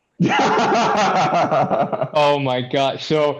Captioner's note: laughter